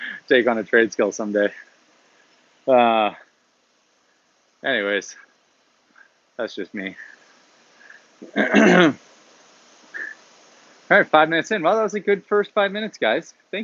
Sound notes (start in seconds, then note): 8.2 clears throat